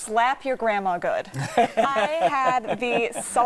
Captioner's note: laughing